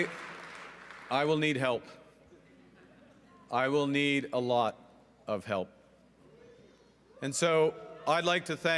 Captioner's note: cheering and Applause